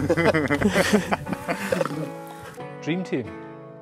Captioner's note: group laughs